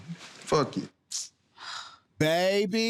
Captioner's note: sighs